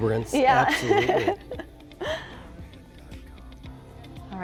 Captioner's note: laughs